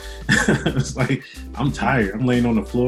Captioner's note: laughs loudly